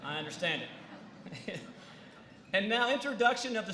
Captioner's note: laughter